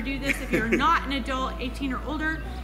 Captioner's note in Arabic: أبي يضحك